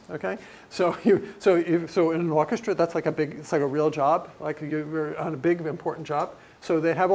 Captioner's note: laugh